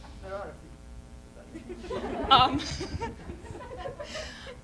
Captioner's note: laughter